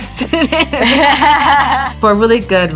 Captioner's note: both laughing